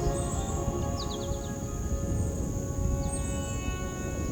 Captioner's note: birds chirping